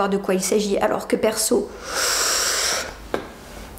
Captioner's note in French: bruit d'aspiration